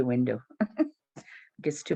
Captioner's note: chuckles